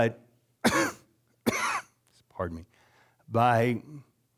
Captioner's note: coughing